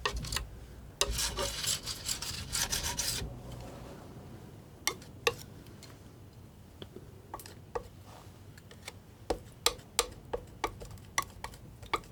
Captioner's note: tapping